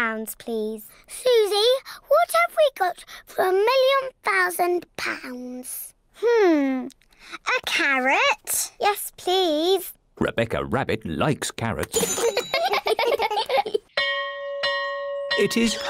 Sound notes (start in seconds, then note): 12.0 all giggle; 13.9 bell rings